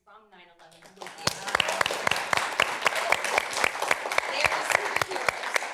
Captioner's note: cheers and applause